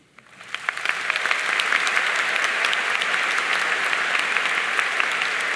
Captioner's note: audience cheering and applauding